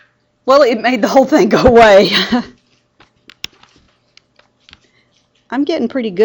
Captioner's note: laughs